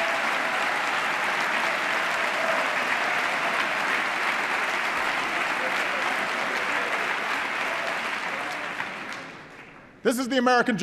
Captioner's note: applause